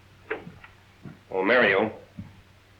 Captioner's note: none